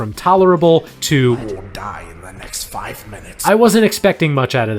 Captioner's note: voiceover